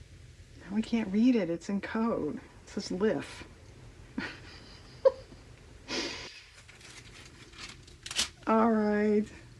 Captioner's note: laughs